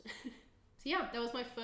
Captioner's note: chuckling